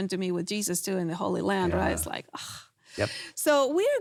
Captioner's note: sighs